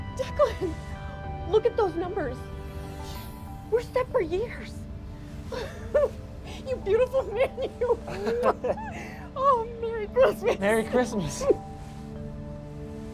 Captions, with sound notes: Declan! Look at those numbers. We're set for years. (laughs) You beautiful man, you. (both laugh) Oh, Merry Christmas. - Merry Christmas.